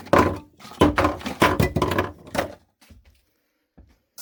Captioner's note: more clatterin'